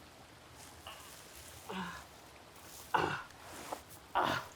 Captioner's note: Arawn groaning